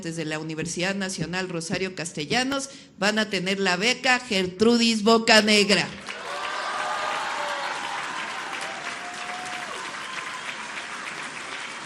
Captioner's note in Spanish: aplausos